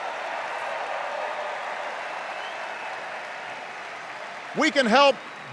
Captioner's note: cheers and applause